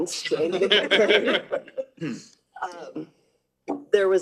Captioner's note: all laughing